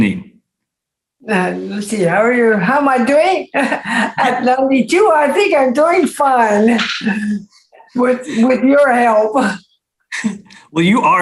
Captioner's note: laughs